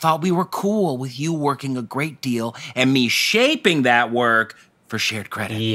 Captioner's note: none